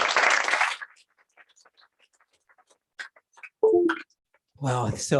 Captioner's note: applause